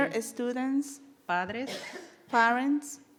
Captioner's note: speaking in foreign language